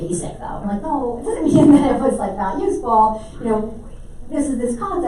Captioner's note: mic feedback drowns out